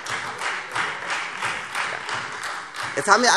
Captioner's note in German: Beifall Freie Demokraten